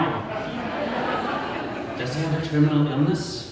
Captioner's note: audience laughter